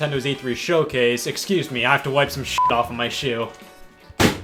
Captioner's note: beep